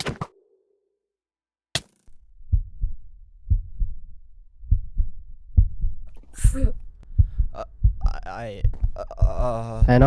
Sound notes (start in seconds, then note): 2.3 heart beating; 6.5 gasp